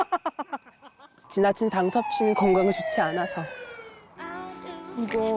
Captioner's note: sound effect: blood sugar patrol incoming